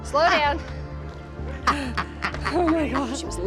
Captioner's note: laughs